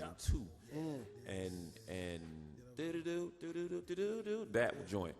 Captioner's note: hums